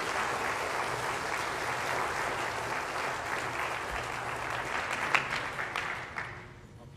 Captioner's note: applause